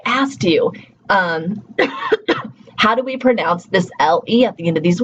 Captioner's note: coughs